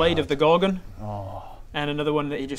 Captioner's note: keen Bob noises